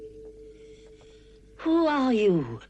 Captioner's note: bell